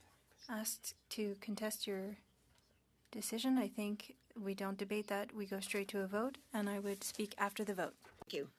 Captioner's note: speaking French